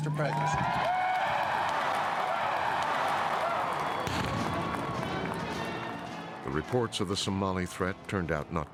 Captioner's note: cheers and applause